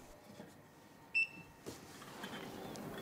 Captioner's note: beeping